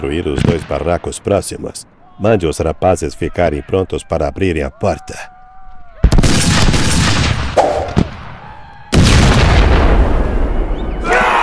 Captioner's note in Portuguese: grito